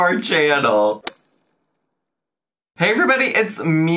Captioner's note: logo thuds